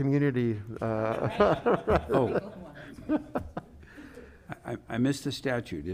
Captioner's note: panelists laughing